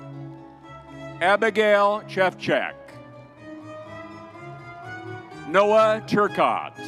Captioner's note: crowd cheering